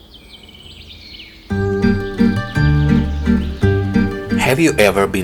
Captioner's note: birds chirping